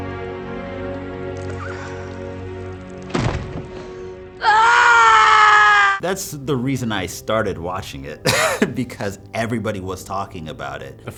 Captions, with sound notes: (woman screams out) - That's the reason I started watching it (chuckles) because everybody was talking about it.